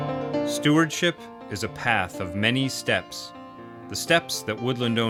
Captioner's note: voiceover